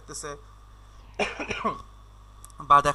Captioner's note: cough!!